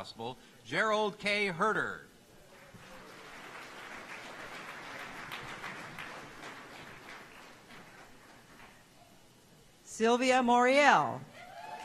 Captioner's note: applause